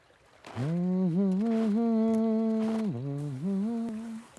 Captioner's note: crunching sound of walking on snow; humming